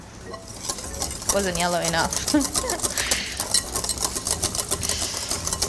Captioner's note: chuckles